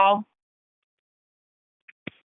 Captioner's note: silence